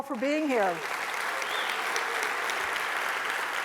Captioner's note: cheering and applause